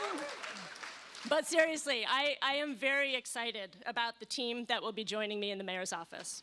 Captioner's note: cheers and applause